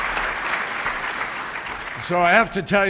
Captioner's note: applause